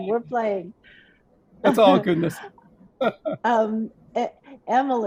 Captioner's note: laughs